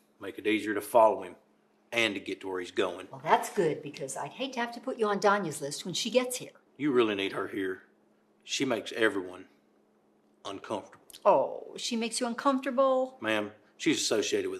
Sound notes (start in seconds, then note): none